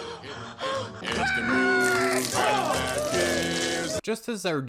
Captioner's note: water splashes on the ground